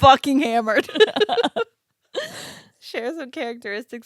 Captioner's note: giggling